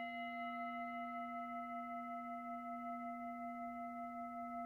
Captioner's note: ring of singing bowl